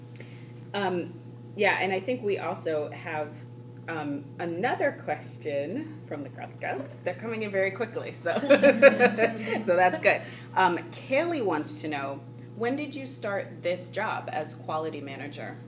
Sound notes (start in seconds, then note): 8.3 laughs